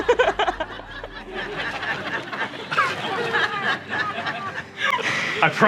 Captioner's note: laughter